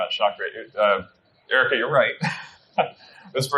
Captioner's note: laughs